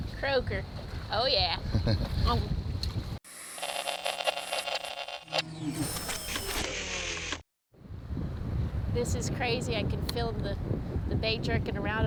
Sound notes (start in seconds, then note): 3.3 static and mechanical noise